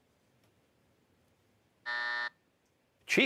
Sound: buzzer

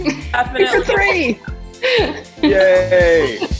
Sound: laughing

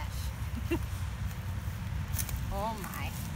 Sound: laughs

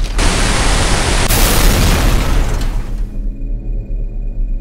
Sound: glass shatters

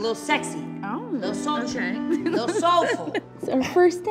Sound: laughs; piano music

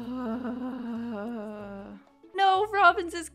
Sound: groooann

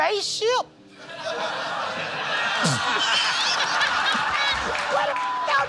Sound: laughter

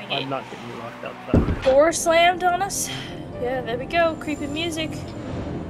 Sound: sigh

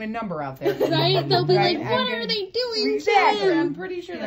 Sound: laughs

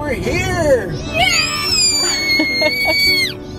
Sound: kids shouting; laughs

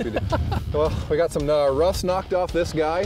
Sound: laughs

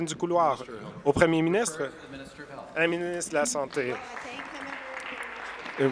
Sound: applause

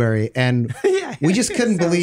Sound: Charlie laughs

